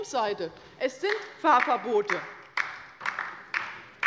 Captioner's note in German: Beifall bei der LINKEN